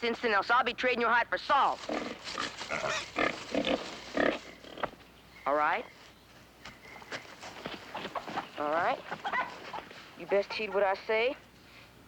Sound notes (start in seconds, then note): 2.7 grunting